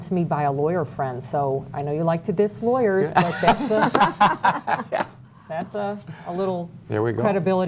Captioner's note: laughter